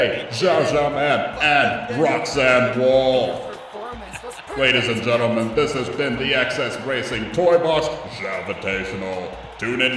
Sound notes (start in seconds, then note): 3.9 laughing triumphantly; 6.6 chuckles